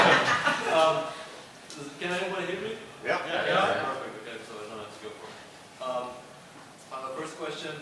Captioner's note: laughter